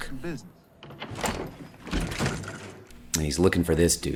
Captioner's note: door opens